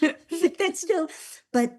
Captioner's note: laughs